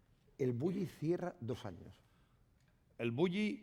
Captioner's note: speaking spanish